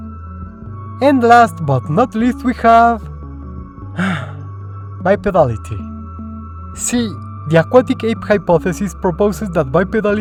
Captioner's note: sigh